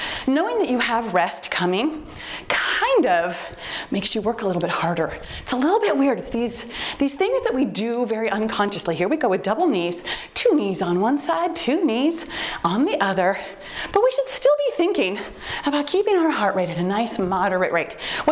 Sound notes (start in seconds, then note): 7.7 timer beeps